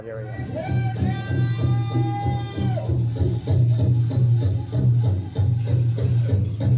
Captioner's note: rhythmic drumming; participant shouts